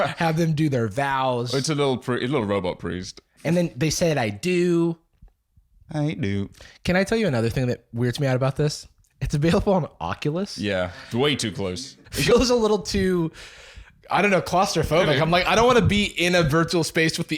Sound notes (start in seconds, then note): 5.7 robot voice